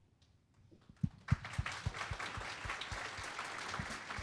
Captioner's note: applause